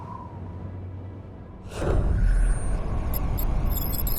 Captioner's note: wind howling; electronic whirring